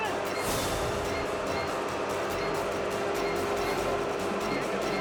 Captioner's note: engine rumbling; suspenseful music